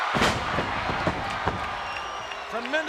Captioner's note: body thuds; audience cheers